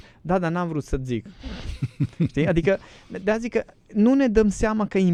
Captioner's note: snoring